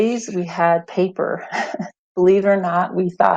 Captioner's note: chuckles